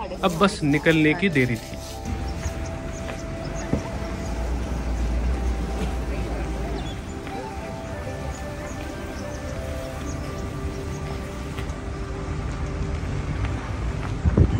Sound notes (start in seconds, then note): 2.7 Gypsy moving sound; 2.7 birds chirping